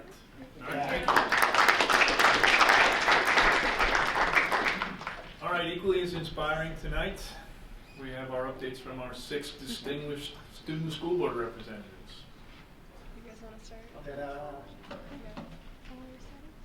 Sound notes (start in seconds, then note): 0.6 group applauding